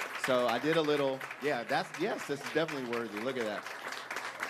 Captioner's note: applause